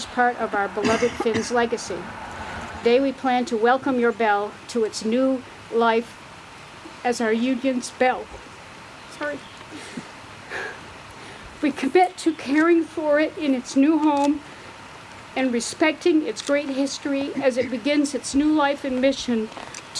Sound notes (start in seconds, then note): 10.5 sobs